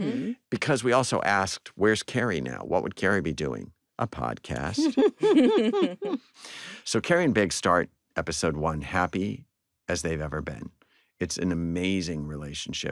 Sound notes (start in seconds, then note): 4.6 all chuckle